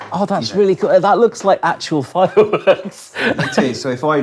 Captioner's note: chuckling